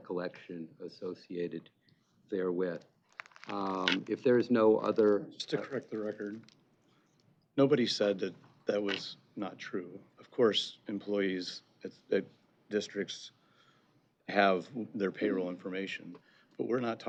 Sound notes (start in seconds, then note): none